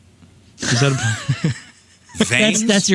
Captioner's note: laughing